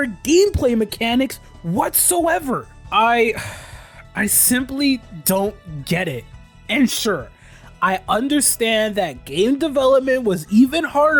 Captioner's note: sighs